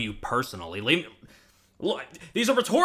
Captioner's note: sharp inhale